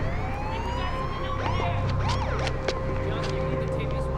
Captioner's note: police siren blaring